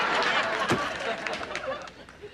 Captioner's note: door closing